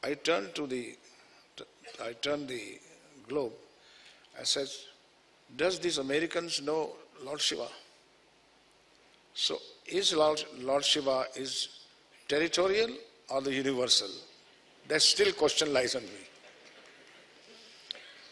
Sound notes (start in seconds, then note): 16.4 laughter